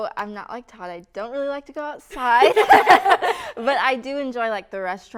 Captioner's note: laughter